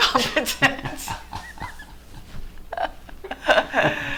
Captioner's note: loud laughing